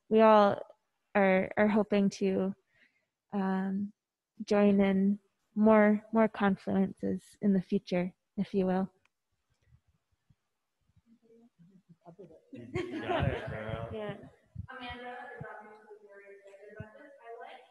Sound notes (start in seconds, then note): 12.5 murmuring and laughing